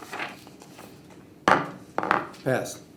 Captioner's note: gavel hits table